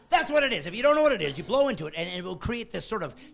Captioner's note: laughing